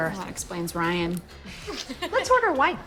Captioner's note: laughing